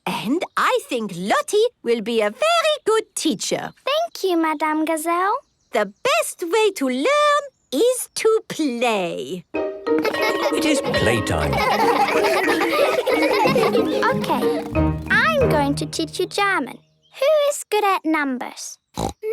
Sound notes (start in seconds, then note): 10.0 laughter; 18.9 snorting